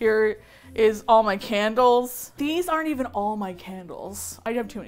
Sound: in disbelief

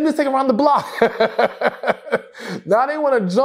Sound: laughs

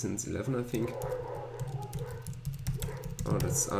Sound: dogs barking

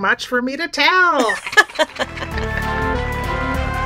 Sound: mutual cackling

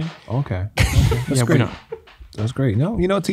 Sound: men laughing

